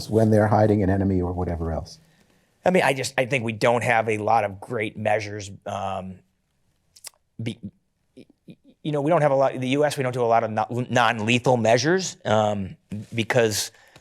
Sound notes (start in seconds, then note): 6.9 sucks teeth